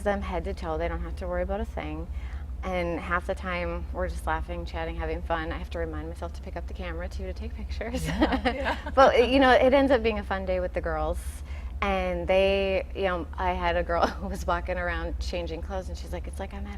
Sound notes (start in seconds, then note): 7.9 laughing; 13.9 laughing